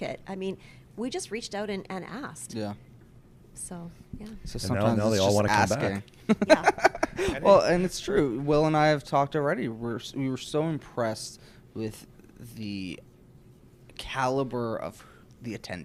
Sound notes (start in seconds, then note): 6.3 laughs